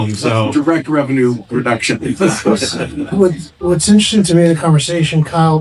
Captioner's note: laughing